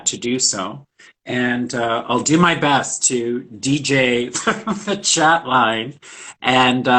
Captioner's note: laughs